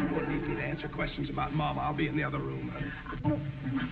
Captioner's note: audience snickering